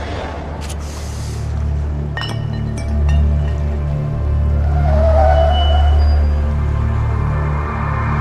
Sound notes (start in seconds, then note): 2.1 bottle clanks; 4.7 tires squealing